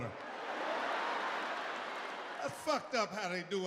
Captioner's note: audience laughing